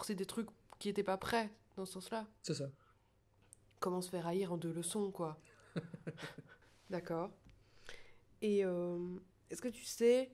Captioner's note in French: rire